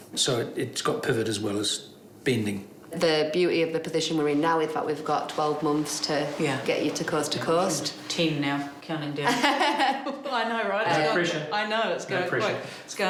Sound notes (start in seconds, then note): 9.2 laughs